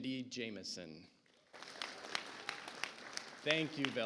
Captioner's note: audience applauds